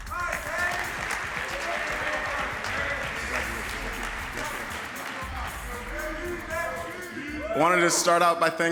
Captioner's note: applause